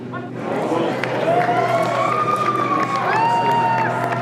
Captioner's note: crowd cheering